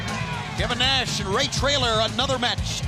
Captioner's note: crowd chatter